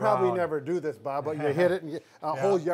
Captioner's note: laughing